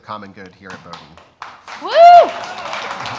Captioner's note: audience applauds